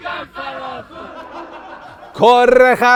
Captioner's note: laughter